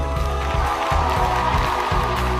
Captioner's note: cheering and applause